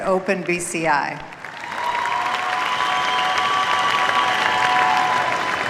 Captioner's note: cheers, applause